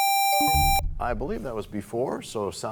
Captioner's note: buzzer sounds, bell chimes